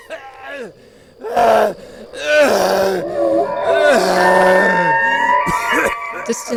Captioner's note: Wendigo sounds,Man crying in pain